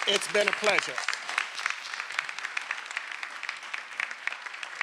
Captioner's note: everyone applauding